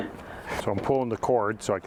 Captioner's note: both laugh